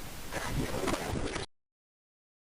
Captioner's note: radio static